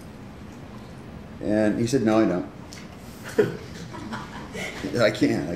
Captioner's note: laughter